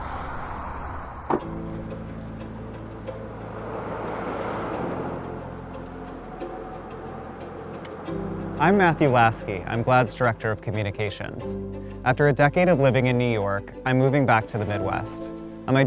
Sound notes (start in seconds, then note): 1.2 car door shutting; 2.1 soft instrumental music